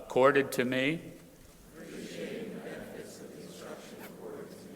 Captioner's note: crowd repeating